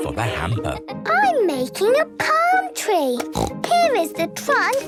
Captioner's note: snorts